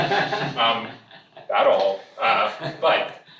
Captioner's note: all laughing